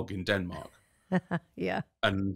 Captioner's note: laughs